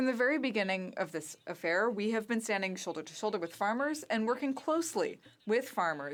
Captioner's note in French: voix de l'interprète